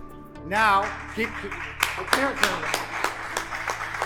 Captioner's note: applause